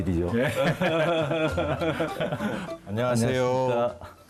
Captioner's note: ㅎㅎㅎㅎㅎㅎㅎ